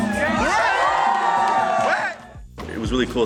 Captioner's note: people cheering